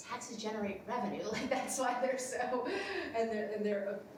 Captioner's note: laughs